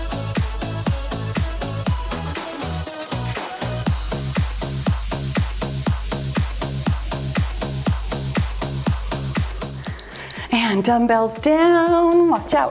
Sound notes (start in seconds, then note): 9.8 timer beeps